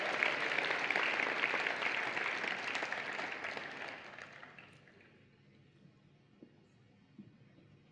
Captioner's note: applause and Cheering